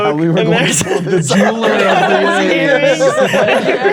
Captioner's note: players laughing